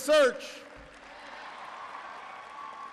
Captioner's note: applause